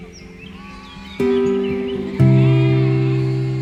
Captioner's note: sheep bleat